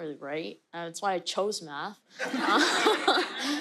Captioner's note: laughter